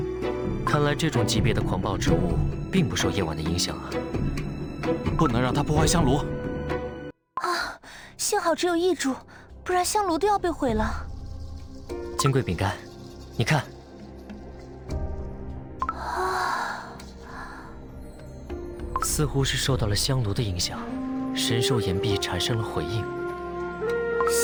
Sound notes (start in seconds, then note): 7.5 sighs